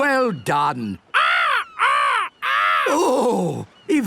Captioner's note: seagulls cries